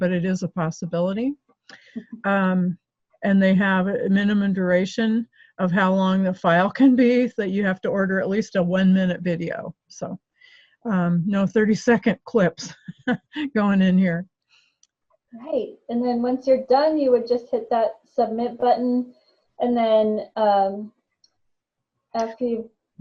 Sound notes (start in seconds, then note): 12.7 chuckles